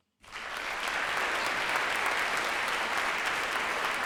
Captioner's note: audience applauds